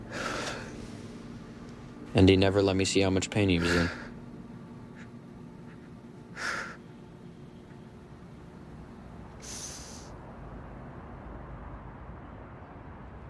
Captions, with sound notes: (Jason sighs) And he never let me see how much pain he was in. (Jason sobs)